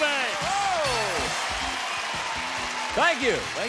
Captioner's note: applause